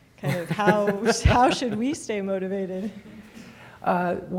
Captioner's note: laughs